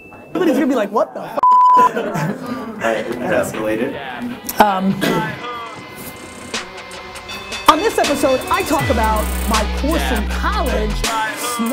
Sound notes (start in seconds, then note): 2.8 voiceover